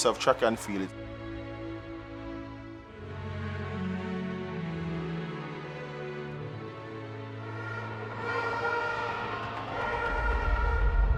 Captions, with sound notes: of track and field. (orchestral music) (horns blowing)